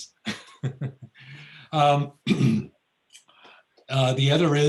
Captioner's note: laughs